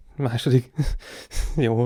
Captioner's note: confused_laughter.mp3